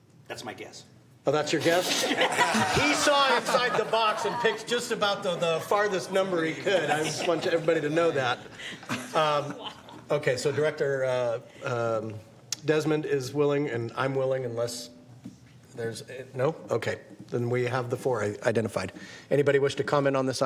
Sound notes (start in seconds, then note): 8.9 laughter